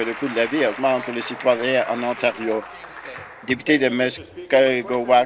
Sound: applause

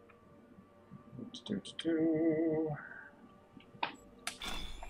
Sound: humming

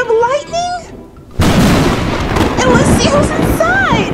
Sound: thunder crashes

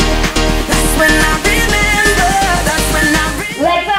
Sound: timer beeping

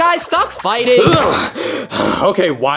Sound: Mario breathing heavily

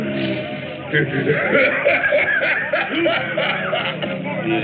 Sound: laughing

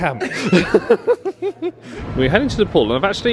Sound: group laughing

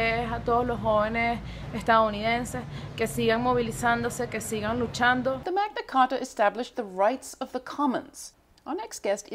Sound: Spanish

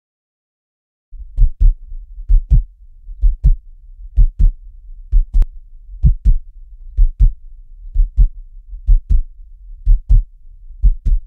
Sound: sound of heartbeat

